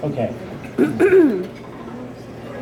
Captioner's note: throat clear